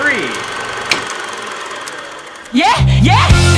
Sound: board clicking

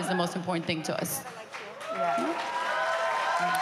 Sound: cheering

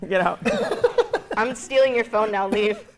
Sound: laughing

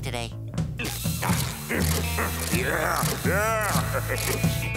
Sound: grunting

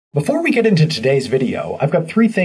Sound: voiceover

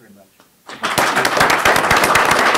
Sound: applause

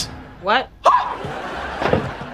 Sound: screaming

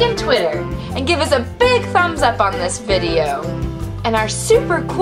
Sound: voiceover

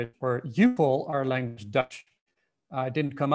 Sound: foreign language

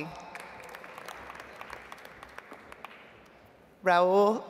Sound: audience applauds

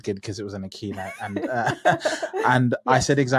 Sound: laughing

